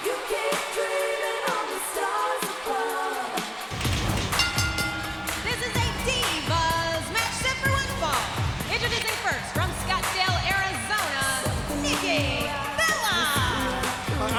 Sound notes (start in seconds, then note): 3.8 bell ringing; 3.9 intense music